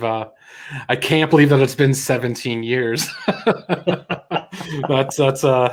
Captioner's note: laughs